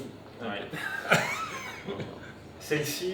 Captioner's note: nervous laughter